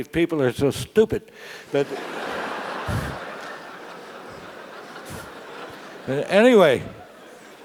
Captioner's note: laugh